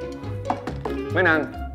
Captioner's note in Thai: เสียงเคาะประตู